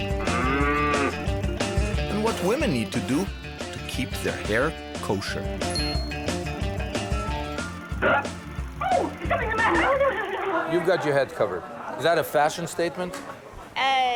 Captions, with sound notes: (cow mooing) And what women need to do to keep their hair kosher. (mechanical squeaking) (talking excitedly) You've got your head covered. Is that a fashion statement?